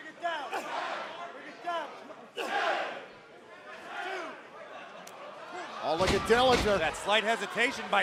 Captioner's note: fans chanting